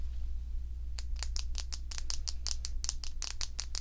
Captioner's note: marker tapping